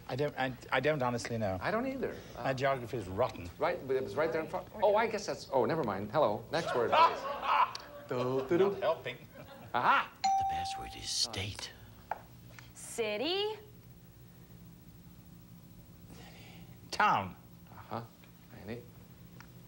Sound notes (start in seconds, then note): 6.6 audience laughing